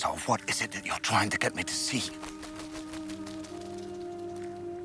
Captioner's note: bird's wings flapping